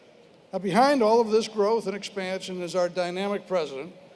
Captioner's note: none